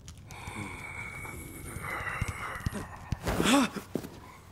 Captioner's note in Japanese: レゴシのうなり声